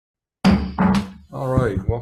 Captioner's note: gavel thunking